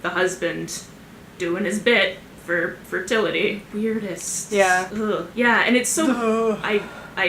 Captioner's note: grossed out sounds